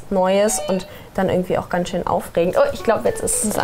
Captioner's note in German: Türklingel